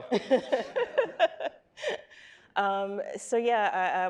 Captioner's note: panelists laughing